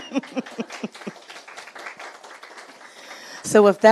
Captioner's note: audience clapping